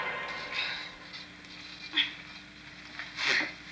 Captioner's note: sighs